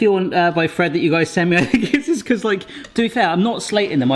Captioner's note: laughing